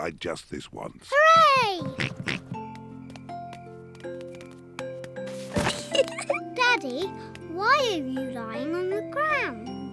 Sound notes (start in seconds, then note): 1.9 oinks; 5.8 giggles